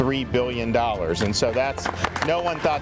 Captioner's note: crowd applauding